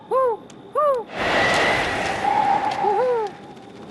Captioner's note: wind howling